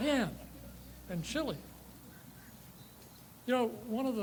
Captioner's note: bird chirps